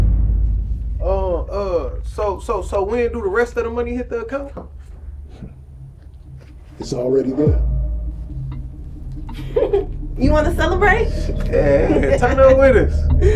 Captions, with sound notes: (dramatic music) Oh uh, so, so, so when do the rest of the money hit the account? - It's already there. - (laughs) You wanna celebrate? - Yeah, we're big time winners. (laughs)